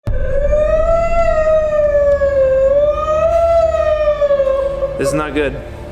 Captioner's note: wailing siren adlib